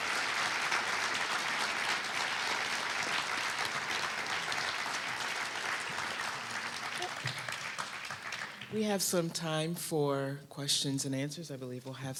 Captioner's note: applause